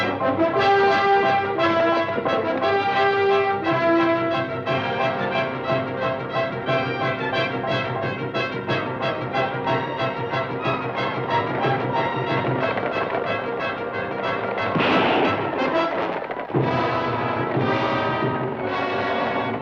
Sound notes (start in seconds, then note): 14.6 gun fires